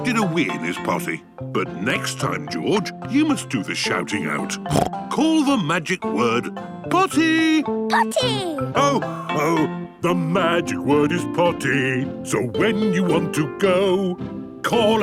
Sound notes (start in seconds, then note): 4.6 snorts